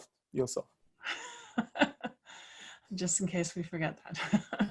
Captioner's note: laugh